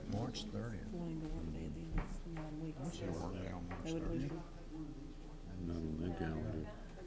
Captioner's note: chatter among board